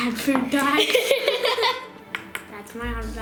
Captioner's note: laughter